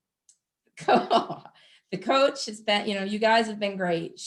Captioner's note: giggles